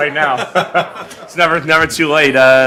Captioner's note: laughing